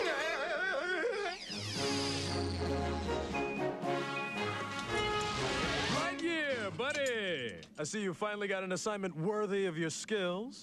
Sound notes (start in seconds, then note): 4.0 beep beep